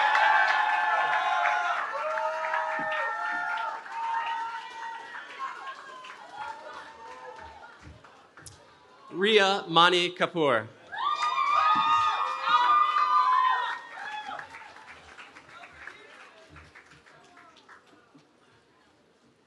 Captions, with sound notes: Riya Mani Kapoor. [CHEERING]